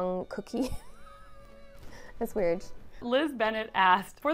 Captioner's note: chuckles